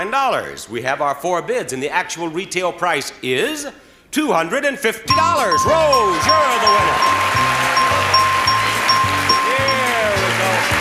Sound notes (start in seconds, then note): 5.1 bell rings continuously; 8.1 audience cheering